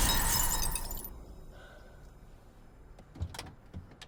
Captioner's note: tires screech; breathes deeply